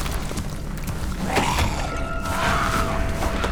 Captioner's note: grumbling; growling; dramatic music